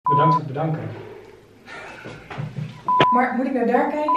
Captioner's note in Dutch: Gelach